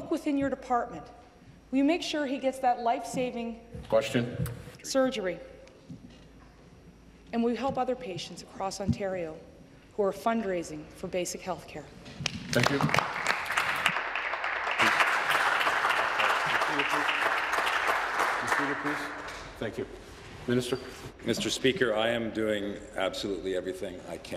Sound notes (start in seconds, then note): 16.7 applause